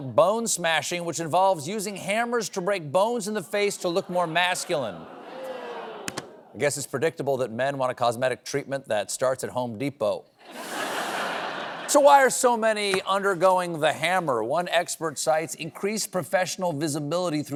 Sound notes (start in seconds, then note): 10.4 laughter